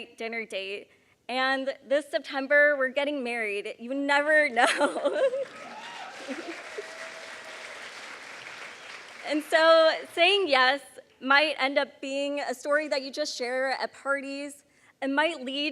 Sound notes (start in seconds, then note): 5.4 applause